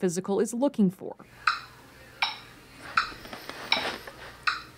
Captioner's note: ticking